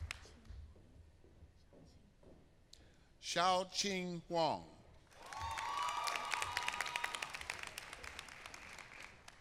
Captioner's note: applause